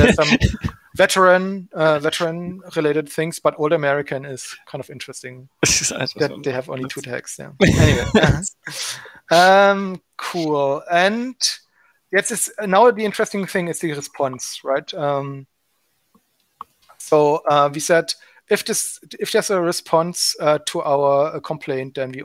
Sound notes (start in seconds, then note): 5.6 giggling and murmurs; 7.6 giggling